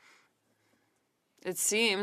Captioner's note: speaking French